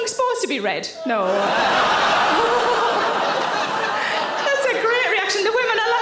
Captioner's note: audience laughing